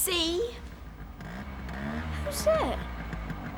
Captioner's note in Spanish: motocicleta corriendo